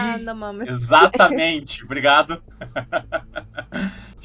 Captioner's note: laughter